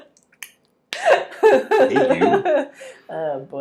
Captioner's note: laughing